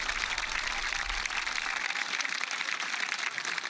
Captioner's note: laughter